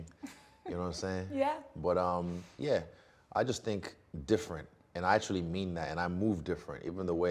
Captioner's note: laughing